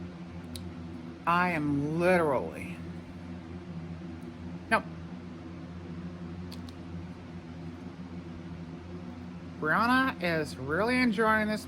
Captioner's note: normal voice